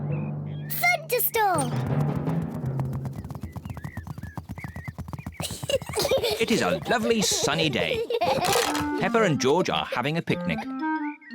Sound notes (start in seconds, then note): 5.4 both giggling